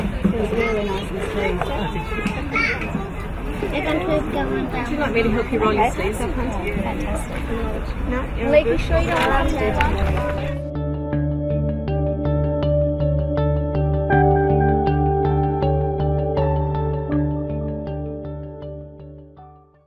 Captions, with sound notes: Till it's really nice and smooth. (CHILDREN CHATTER) Would you like me to help you roll your sleeves up, Hunter? Fantastic. (ALL CHATTER)